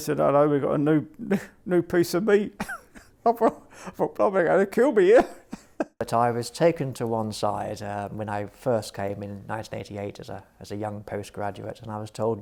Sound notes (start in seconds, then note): 2.6 laughs